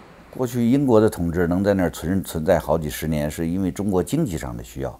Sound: speaks in Chinese

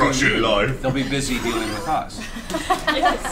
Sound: all laugh

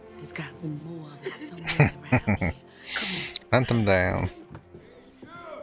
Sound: chuckling

